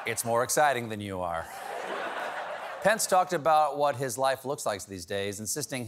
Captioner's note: laughter